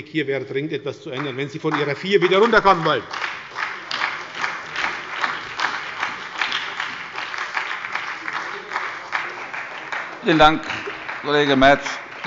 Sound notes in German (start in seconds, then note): 3.2 Beifall bei der SPD